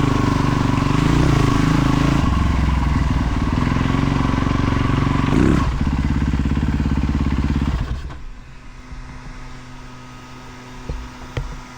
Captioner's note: engine revving